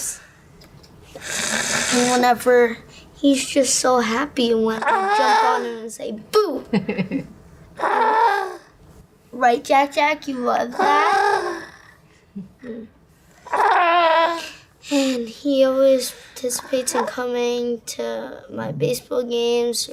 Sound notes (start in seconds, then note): 10.7 happy vocalizations